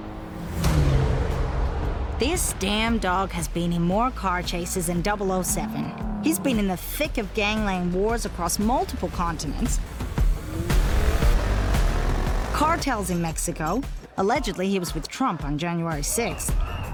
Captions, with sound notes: (engines roaring) - This damn dog has been in more car chases than 007. He's been in the thick of gangland wars across multiple continents, (engine roaring) (dramatic music) cartels in Mexico. Allegedly, he was with Trump on January 6th.